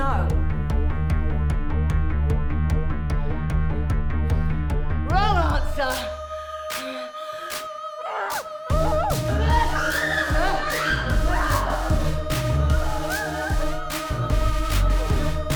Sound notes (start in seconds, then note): 0.0 upbeat music; 8.7 both screaming; 12.8 upbeat music